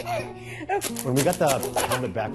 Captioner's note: baby laughing